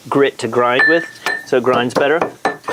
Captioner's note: mortal and pestle pounding